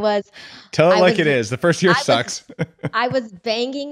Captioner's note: laughs